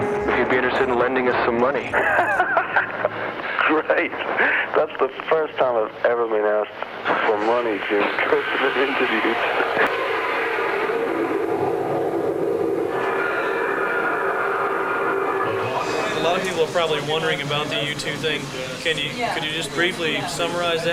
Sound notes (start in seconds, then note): 10.0 plane roaring